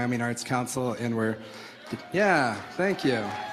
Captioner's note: crowd cheers